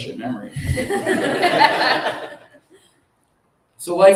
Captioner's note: laughter